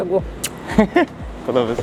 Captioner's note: laughs